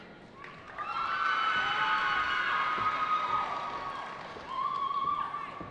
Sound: cheering

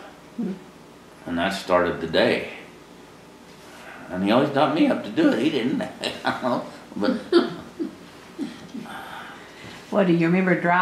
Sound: laughter

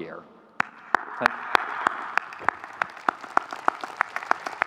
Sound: audience cheering

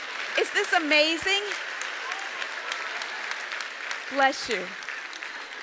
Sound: audience applauds

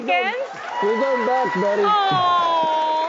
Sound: audience cheers

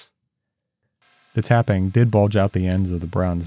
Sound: lathe whirs

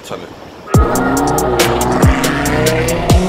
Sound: engine roaring

